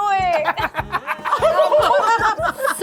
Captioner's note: laughs